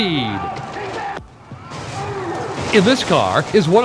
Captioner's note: explodes